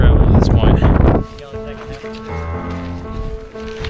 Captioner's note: the mics begin to pickup the loud wind